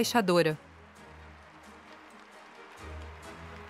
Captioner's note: crowd applauds